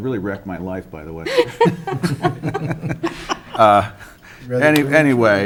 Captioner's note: council members laugh